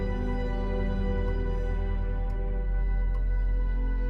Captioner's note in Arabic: دقات الساعة